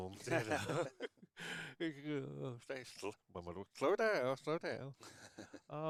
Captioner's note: laughing